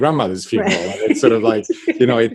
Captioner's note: laughs